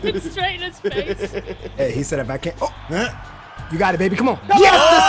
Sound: laugh

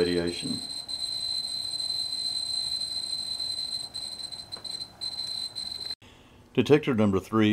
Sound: constant beeps

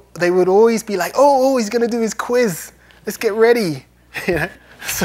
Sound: laughs

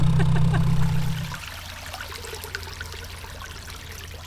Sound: sound of water trickle

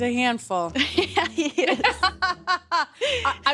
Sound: laughs

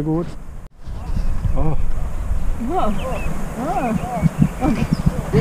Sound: moaning

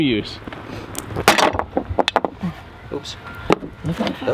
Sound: clanking

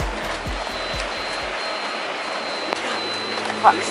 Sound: beeping

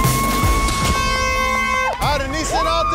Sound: intense music; horn beeping

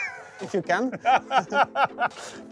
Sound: laughs

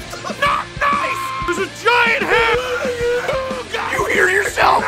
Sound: screaming; Harry potter screaming

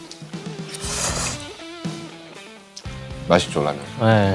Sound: slurp

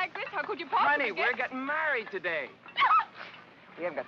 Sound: Frederica yelps

